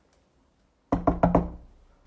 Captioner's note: knocking